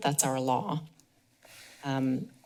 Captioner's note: pause